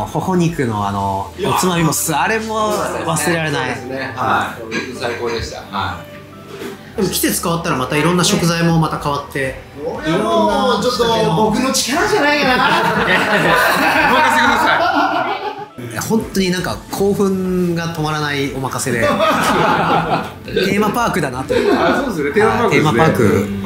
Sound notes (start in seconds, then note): 12.2 laughs